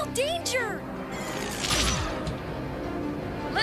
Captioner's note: zapping sound